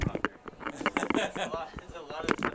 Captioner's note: man laughs